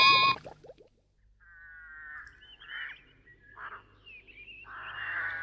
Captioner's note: birds squawk